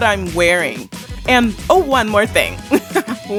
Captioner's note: laughs